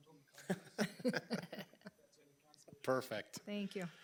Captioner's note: everyone laughing